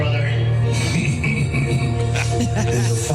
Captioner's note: laughter